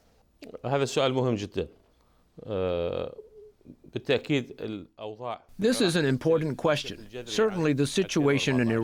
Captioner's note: through translator